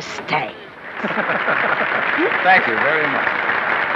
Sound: applause and laughing

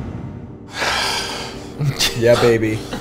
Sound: sighs

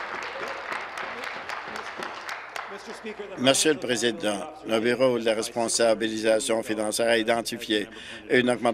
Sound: applause

